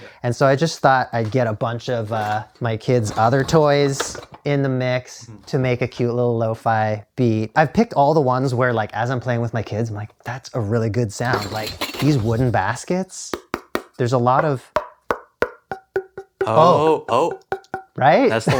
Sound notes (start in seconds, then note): 14.4 tapping